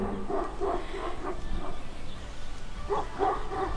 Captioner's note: dogs barking in background